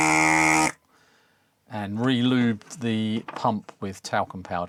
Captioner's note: buzzer